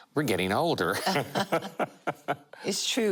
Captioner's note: laughter